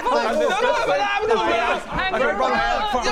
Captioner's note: speaking in tongues